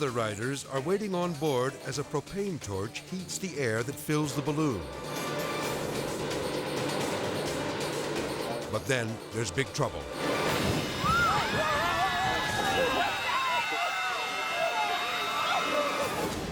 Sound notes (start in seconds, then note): 4.9 edgy dramatic music; 4.9 torch blowing; 9.9 edgy dramatic music; 10.1 flame exploding; 10.8 people screaming